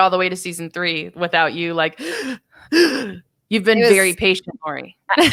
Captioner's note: heaving